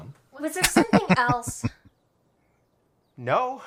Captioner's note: laughing